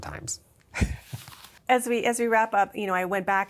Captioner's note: laughs